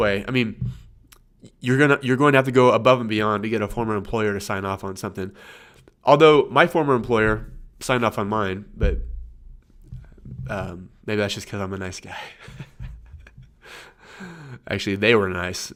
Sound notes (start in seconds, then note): 12.3 laughs